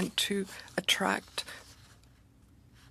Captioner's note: speaking French